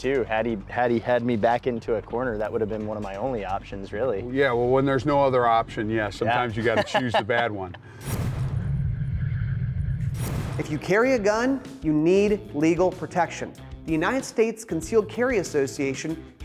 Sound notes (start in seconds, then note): 6.5 laughing